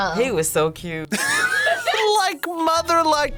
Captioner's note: both laugh